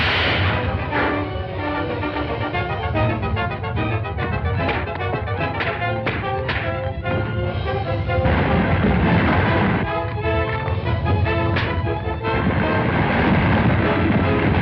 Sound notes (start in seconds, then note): 6.0 punches thudding; 8.2 tower rumbling; 11.5 punch thuds; 12.4 tower rumbling